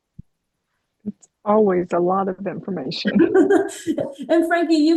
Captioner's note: laughter